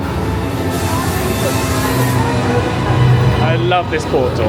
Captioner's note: electricity crackling